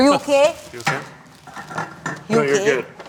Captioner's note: items rattling